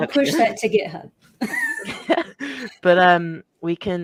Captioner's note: laughs